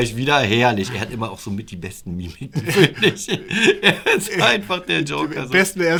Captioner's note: laughter